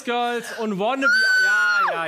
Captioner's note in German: Schriller Schrei